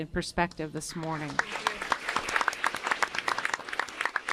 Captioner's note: applause